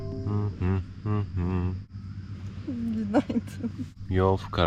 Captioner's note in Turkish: kahkaha